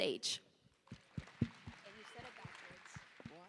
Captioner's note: applause